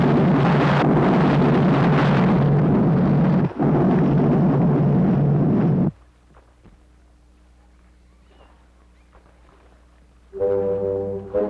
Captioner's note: explosion